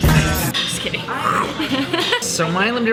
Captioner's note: growls